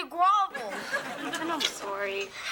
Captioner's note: audience laughing